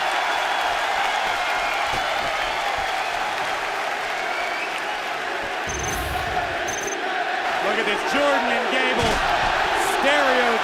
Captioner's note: cheers and applause